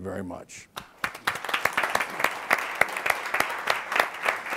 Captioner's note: audience applauds